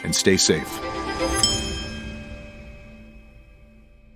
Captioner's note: bells chiming